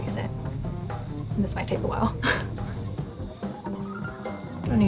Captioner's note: chuckles